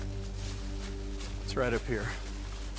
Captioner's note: tense music; undergrowth crackles